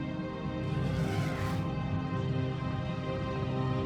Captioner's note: faint growls